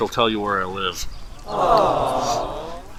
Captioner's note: awwwwwwwwwww